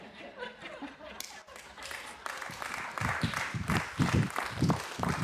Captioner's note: laughter; applause